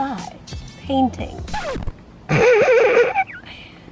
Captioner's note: laughs